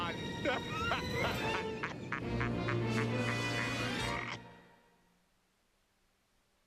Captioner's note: evil laughter